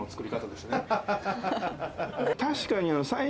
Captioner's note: laughter